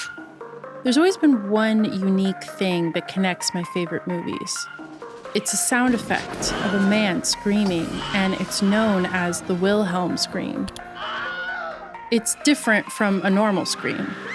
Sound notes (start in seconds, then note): 10.5 mouse click; 10.9 Wilhelm Scream